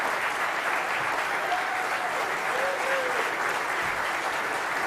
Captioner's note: applause